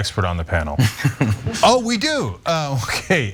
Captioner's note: laugh